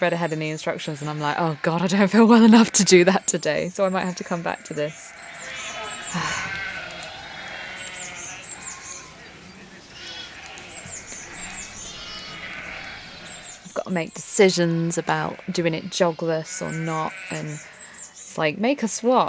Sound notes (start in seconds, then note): 9.6 sheep and lambs baaing